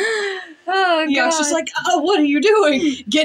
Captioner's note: sighing